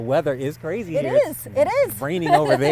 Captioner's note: laughs